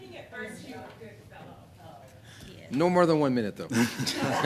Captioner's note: laughter